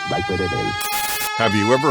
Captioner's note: ominous rising synth; Static; ominous rising synth